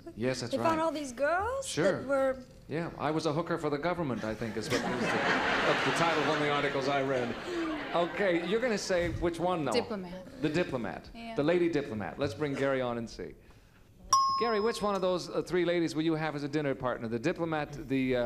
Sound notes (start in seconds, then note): 14.1 ding